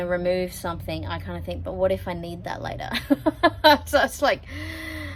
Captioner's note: chuckles